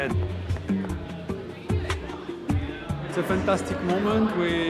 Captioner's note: people talking